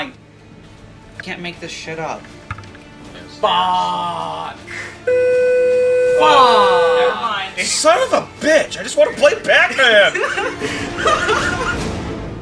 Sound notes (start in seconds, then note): 5.0 loud beeping; 9.1 laughing